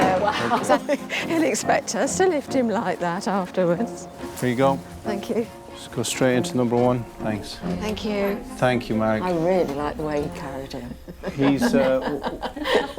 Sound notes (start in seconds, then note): 10.8 all laughing